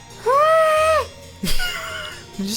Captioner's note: squeals; laughs